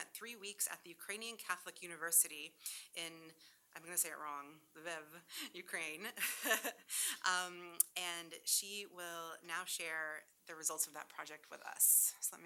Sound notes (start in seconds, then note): 6.4 laughs